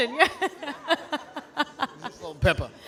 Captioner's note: laughing